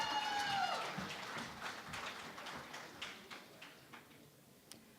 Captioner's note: cheering and Applause